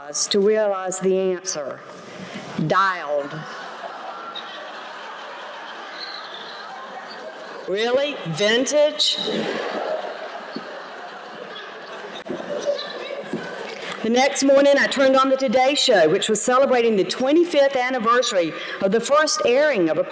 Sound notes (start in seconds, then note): 3.3 laughter; 9.2 laughter